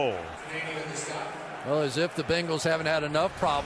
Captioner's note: stadium announcements